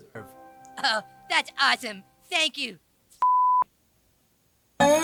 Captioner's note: beep